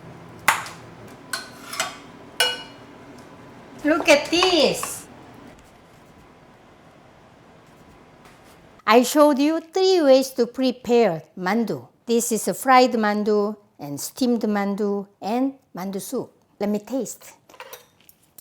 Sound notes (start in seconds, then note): 1.2 spoon scraping